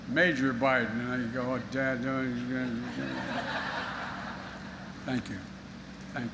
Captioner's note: laughter